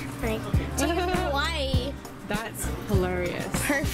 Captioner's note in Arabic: يضحك